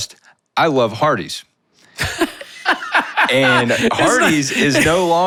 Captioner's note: laughing